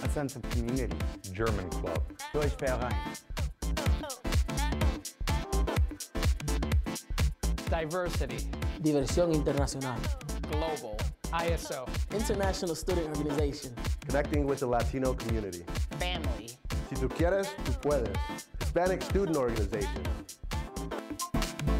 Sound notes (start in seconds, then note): 2.6 speaking German; 4.4 funky music; 9.2 speaking Spanish; 17.3 speaking Spanish